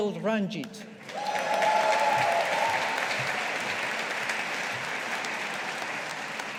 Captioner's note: audience applauding